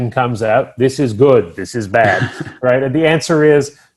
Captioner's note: chuckles